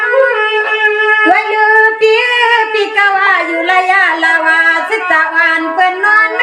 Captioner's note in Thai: ปรบมือ